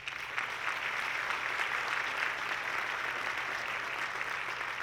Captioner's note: audience clapping